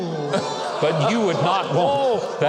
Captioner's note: audience ooh's